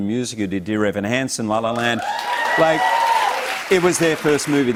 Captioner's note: cheers and applause